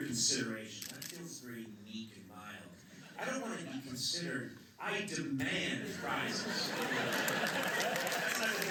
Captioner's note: laughter